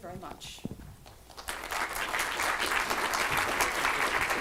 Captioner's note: applause